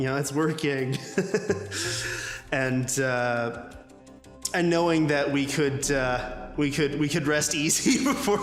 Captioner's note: laughs